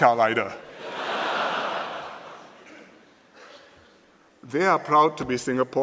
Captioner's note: laughter